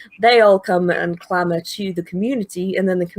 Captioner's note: none